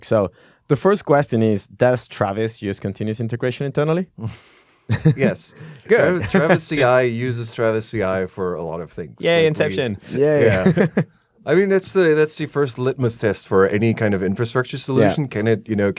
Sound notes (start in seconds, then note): 4.8 chuckling; 9.8 laughs